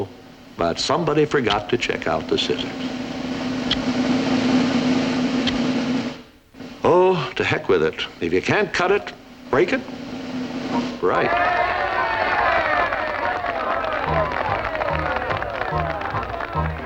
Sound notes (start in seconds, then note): 3.1 drumroll continues; 11.0 cheering